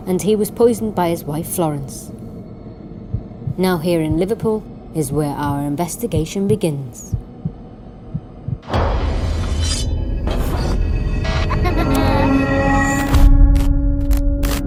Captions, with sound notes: And he was poisoned by his wife Florence. Now here in Liverpool, is where our investigation begins. (heart beating) (knife slicing) (child laughing)